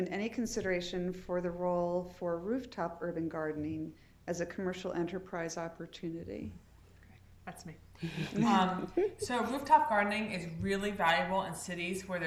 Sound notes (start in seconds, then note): 8.0 laughter